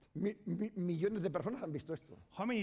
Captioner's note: speaking spanish